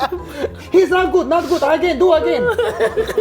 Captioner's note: in a Japanese accent; laughs